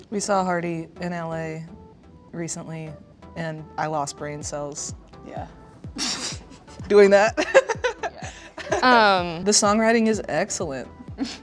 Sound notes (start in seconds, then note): 7.3 girls laughing